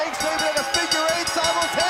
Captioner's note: bell ringing